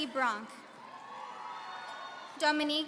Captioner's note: audience cheering